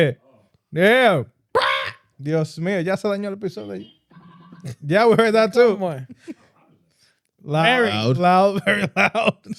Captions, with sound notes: We heard that shit. Yeah. (Speaking Foreign Language) Yeah, we heard that too. Loud. Loud. Loud, very loud.